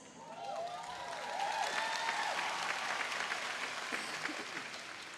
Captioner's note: audience applauding